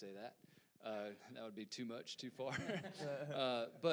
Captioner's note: panelists laugh